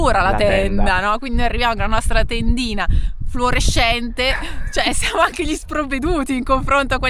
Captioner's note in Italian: risate